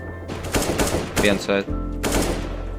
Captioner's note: gun fires